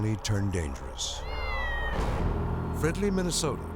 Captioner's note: cat mewing